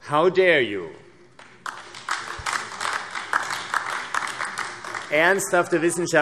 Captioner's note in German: Beifall AfD